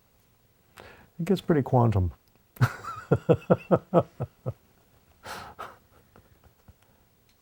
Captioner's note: laughs